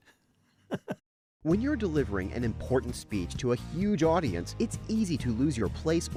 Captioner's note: voiceover